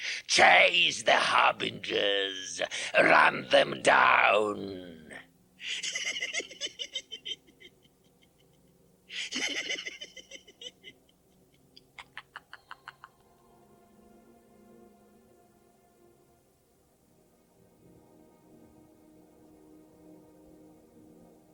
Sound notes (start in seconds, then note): 5.6 Gatekeeper goes back to laughing